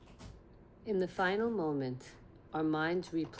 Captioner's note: woman's voiceover